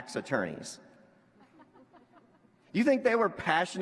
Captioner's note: laughter